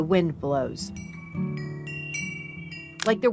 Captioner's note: chimes ring